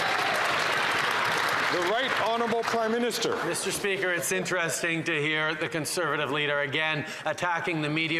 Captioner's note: some Applause